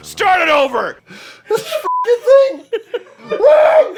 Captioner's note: beeping; shrieks of despair